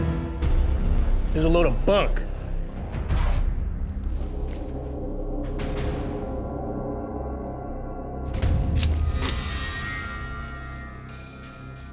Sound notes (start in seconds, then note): 8.3 gun cocking